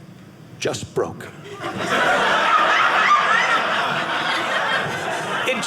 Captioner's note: audience laughing